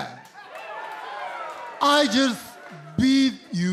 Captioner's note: crowd cheering